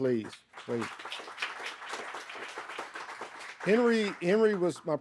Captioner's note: audience applauding